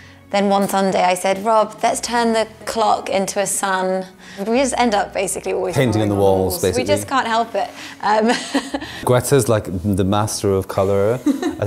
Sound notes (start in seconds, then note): 8.0 laughs